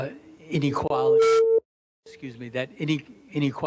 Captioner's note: microphone shrills